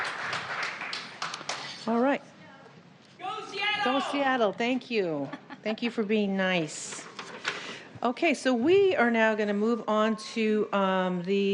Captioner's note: applause